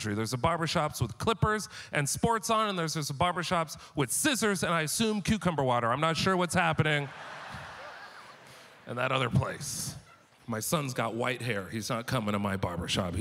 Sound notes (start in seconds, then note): 6.8 audience laughter